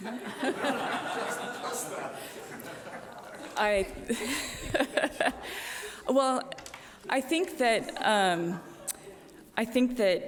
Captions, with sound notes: (audience laughing) - (laughing) Well, I think that